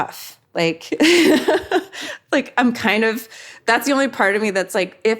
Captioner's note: laughs